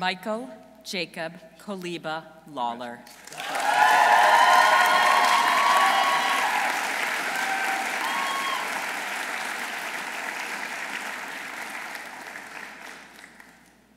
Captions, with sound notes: Dr. Michael Jacob Koliba Lawler. -(audience cheering) -(audience applauding)